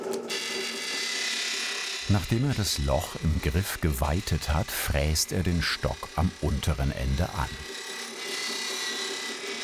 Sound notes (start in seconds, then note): 0.5 high-pitched whirring